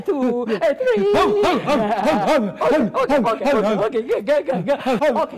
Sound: doctor loudly barking

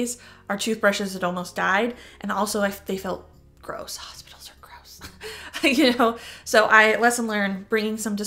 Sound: chuckle

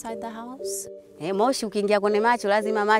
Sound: non-english speech

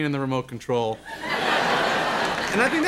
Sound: audience laughter

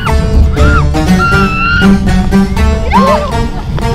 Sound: traditional music; screaming

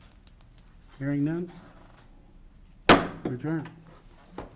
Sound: gavel pounding

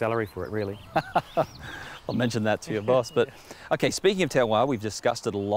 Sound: laughing

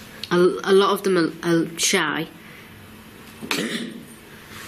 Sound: coughs

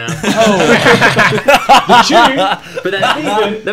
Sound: students laughs

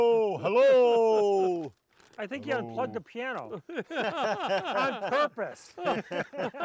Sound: laughing

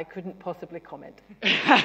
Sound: laughter

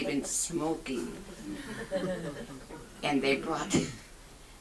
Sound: audience chuckles

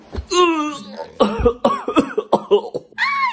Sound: coughs; screams

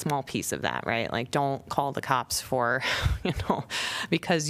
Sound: laughter

